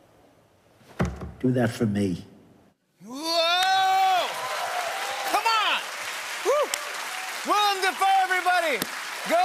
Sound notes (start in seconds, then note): 0.8 tapping; 3.1 cheering and applause